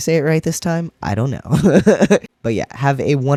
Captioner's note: laugh